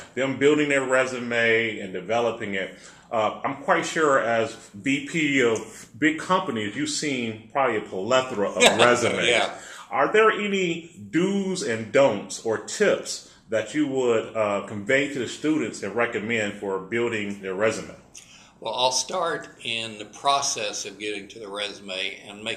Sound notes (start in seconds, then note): 8.6 laugh